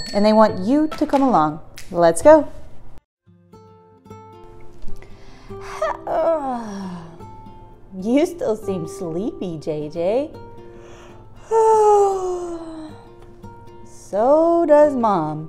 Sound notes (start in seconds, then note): 5.6 yawning; 11.4 yawning